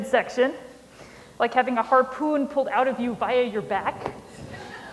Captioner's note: laughter